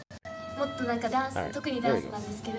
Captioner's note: speaking in foreign language